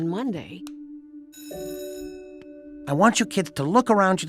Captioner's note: bell rings